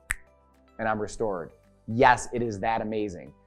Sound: snapping fingers

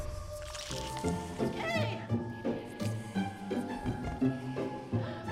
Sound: fork plunging in flesh

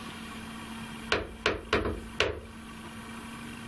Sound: knocks on wall

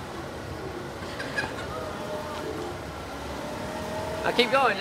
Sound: laughing; scooter motor running

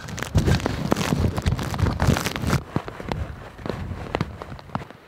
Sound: rain falling

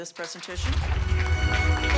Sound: applause

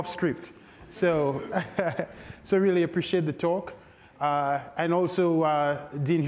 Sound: chuckles

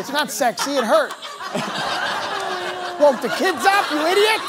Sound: laughter

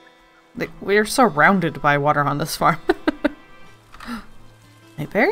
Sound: laughs

